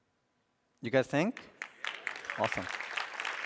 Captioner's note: applause